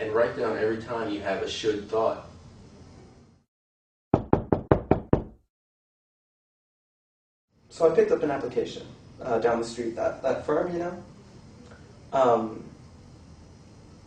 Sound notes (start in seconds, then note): 4.1 knocking